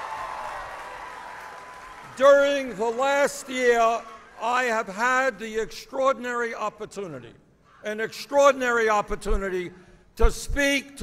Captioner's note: applause